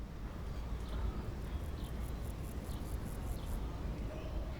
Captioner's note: birds chirping faintly